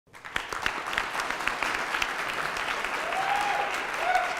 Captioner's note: applause and shouts